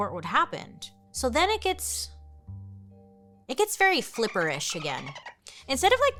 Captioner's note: dolphin cackling